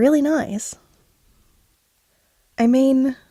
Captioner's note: none